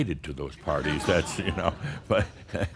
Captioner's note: some laughter